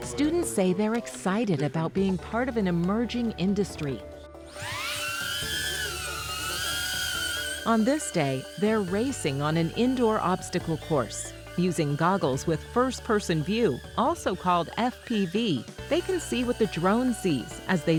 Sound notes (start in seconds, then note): 4.7 drone buzzing